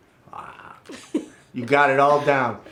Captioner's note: laughs